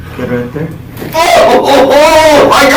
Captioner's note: screaming